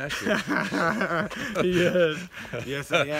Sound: laughs

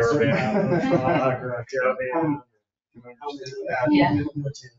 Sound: people chatter

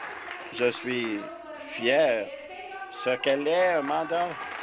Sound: applause

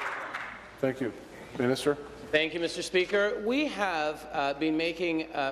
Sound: applause

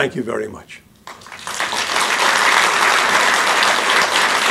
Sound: applause

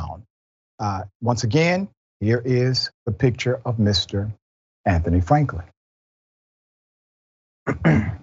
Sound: cough

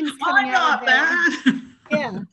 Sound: laughs

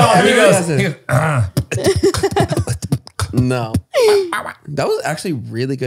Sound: he clears his throat; they all shout; beatboxing

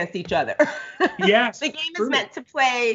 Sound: laughs

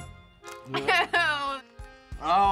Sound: chuckling

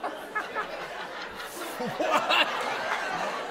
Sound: laughter

